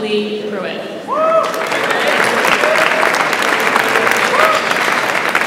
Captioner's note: audience applauds